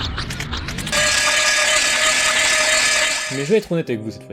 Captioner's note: sound of meat grinding